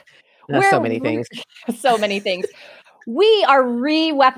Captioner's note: chuckles